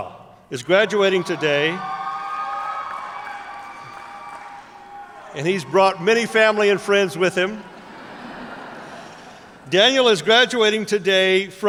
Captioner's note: cheers